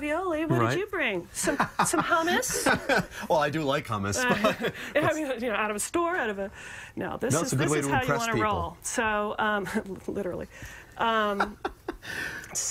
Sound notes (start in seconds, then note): 4.2 laughter